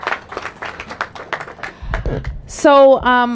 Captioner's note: applause